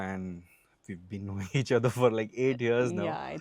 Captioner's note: laughs